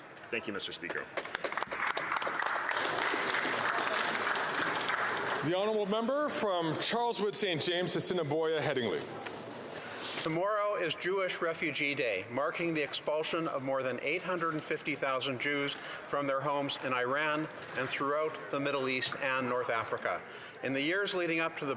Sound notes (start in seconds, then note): 4.4 some Applause